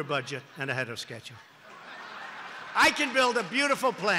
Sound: laughter and applause

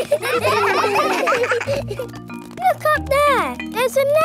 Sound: children laughing

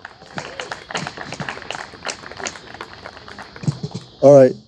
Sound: audience applauding

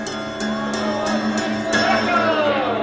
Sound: crowd cheering

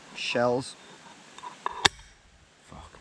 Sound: knife clanking

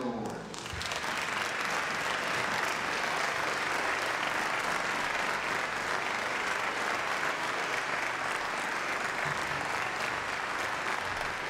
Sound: applause

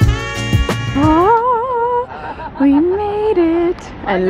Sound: squealing with excitement

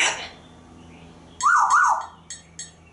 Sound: whistling

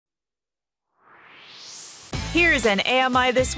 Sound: swoosh

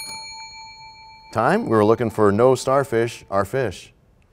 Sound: bell rings, time expires

